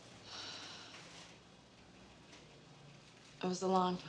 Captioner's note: Rita sighs